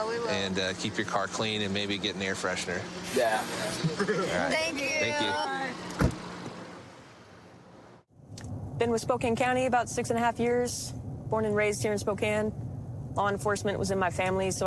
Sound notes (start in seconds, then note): 3.4 laughs; 5.3 car door closes